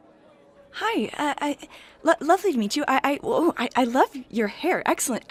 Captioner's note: stammering